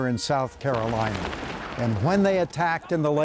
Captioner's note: cannons blasting